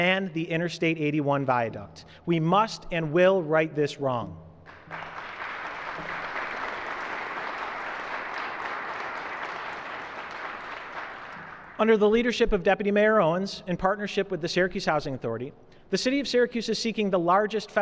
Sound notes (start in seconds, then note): 4.6 applause